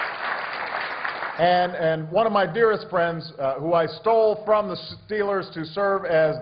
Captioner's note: applause